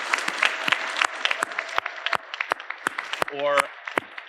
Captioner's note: audience applauding